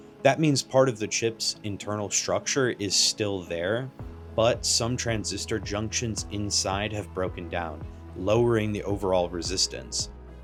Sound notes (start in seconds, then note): none